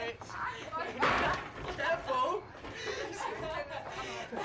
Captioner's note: perempuan tertawa; perempuan tertawa dan bercetak